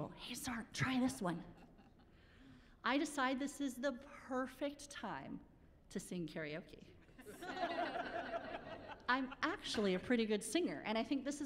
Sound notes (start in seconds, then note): 7.2 laughing